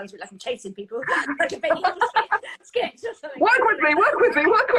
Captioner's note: both laughing